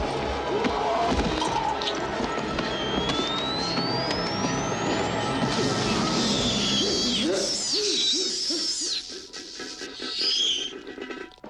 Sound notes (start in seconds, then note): 3.3 stun gun charging; 5.5 stun gun zapping; 8.7 creature squealing